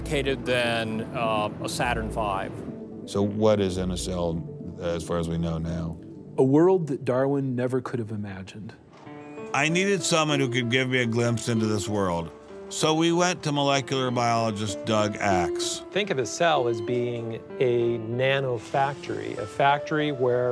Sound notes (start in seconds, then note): none